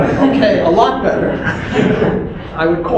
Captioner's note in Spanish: risas